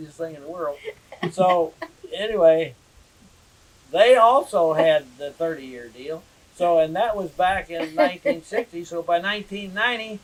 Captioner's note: laughter